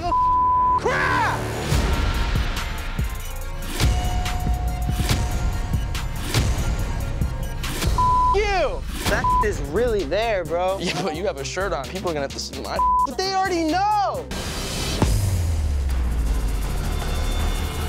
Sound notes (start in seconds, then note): 7.9 beep